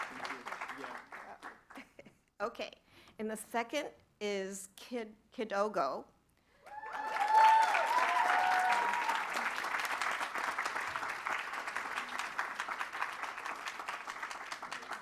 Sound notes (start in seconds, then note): 6.6 applause